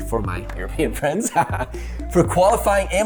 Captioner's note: laughing